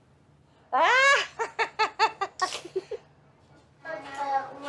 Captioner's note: cracks up